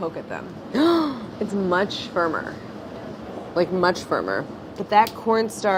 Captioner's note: gasps